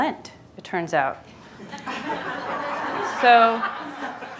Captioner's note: audience laughing